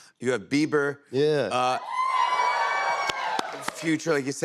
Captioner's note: cheers and applause